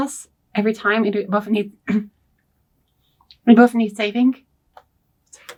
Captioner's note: clears throat